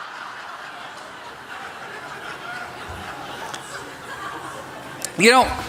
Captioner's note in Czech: Smích